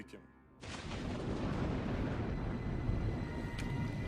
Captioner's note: thunder rumbling